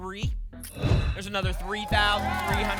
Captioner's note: whoosh